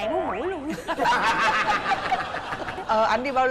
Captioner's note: laughing